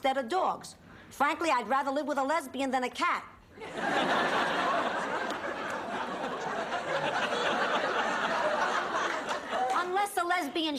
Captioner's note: laughs